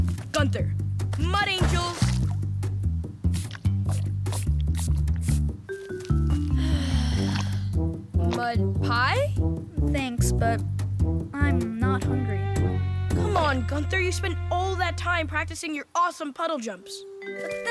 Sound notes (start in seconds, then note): 1.1 splashing; 6.3 sighing